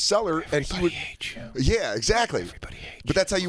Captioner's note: whispers